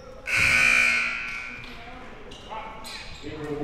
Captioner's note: buzzer ringing